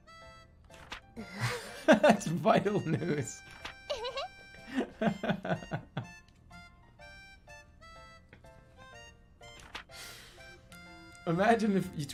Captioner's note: giggling